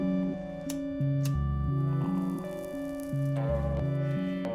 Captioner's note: lighter clicks